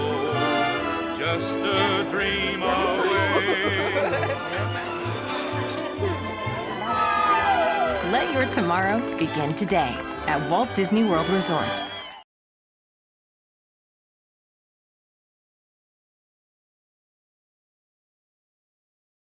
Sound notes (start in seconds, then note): 2.7 laughing; 6.9 screaming